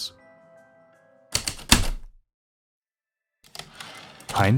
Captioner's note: typewriter keystrokes, return slide